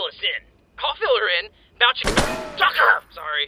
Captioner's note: gunshot